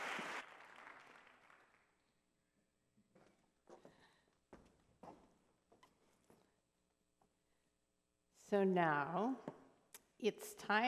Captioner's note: applause